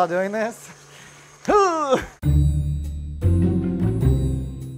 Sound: grunts

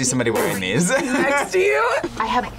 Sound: laughs

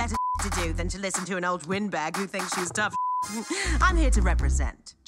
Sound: beep; beep

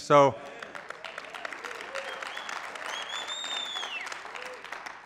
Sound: applause

